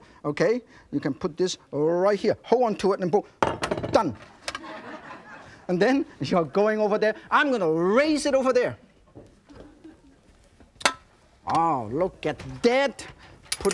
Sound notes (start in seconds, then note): 4.5 audience laughing